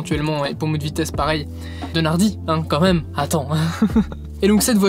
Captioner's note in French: rire